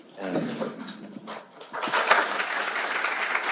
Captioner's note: applause